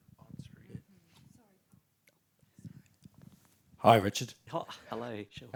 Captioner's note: laughter